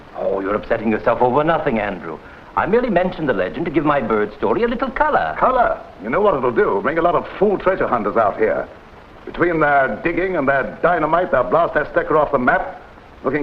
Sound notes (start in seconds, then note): none